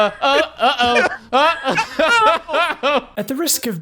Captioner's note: laughs